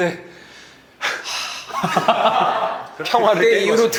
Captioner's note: sigh